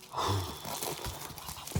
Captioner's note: sighs heavily